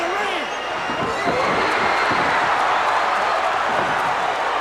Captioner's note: crowd cheers